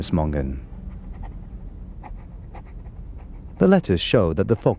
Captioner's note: pen scratching